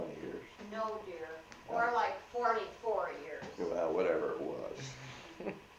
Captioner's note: laughs